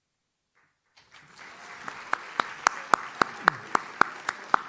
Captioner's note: audience claps